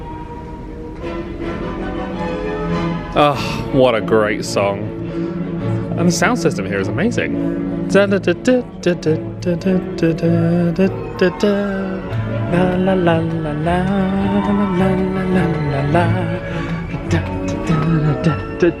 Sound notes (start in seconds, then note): 2.5 bright orchestral music; 8.1 vocalising; 13.1 continues vocalising